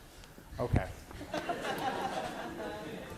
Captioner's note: class laughing